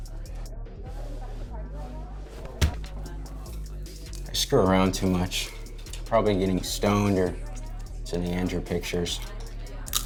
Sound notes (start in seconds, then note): 2.4 light thudding; 8.4 people chattering; 9.9 boy chomping snacks